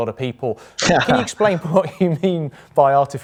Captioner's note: laughs